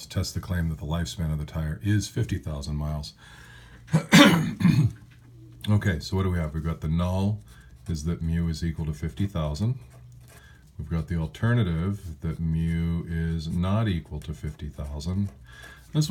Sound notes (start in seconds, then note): 3.9 cough